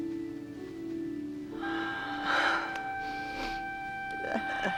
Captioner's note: breathes raggedly